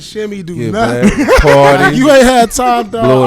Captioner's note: laughing